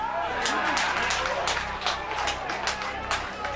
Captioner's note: crowd cheering